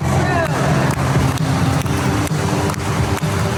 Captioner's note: clapping